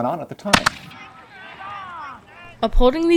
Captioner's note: gunshot